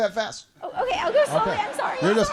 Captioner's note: laughter